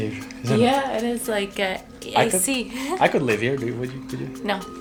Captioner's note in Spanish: risas